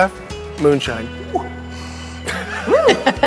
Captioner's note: exhaling; exclaiming; laughing